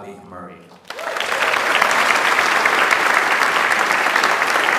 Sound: audience applauds

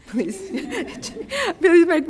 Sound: chuckling

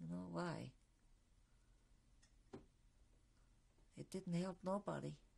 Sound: pauses for 3 seconds

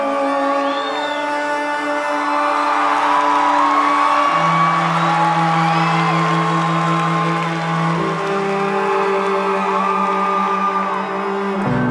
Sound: crowd cheering

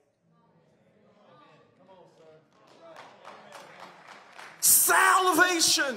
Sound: congregants cheering

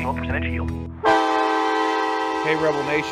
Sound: horn blaring

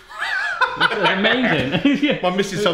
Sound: all laugh

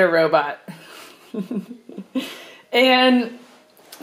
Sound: laughing

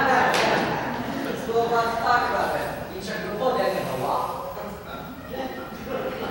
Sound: speaks in Mandarin Chinese

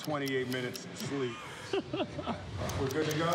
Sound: laughing

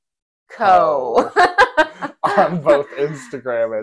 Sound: laugh

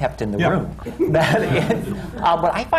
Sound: laughter

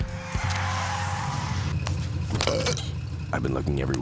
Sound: belching

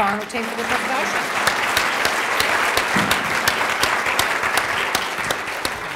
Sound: applause

